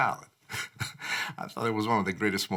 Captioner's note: laughs